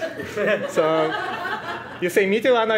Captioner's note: crowd laughs